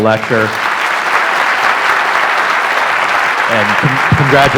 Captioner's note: applause